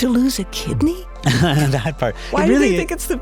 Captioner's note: laughs